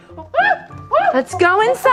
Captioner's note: exciting gorilla sounds